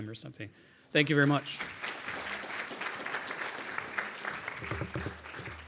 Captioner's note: audience applauding